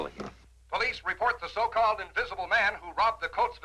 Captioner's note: radio Announcer